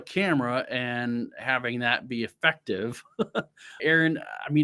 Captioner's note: chuckles